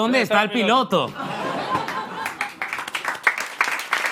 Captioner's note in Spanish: Risas y aplausos